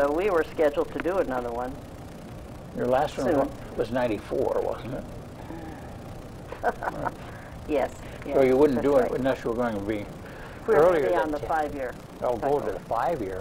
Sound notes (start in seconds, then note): 6.5 laughs